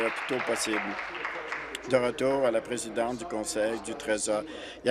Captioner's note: applause